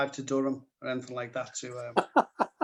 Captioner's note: laughter